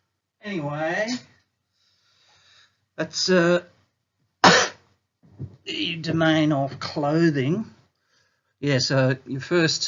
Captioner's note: coughs